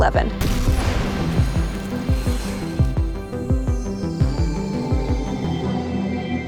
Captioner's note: dramatic music; logo whooshes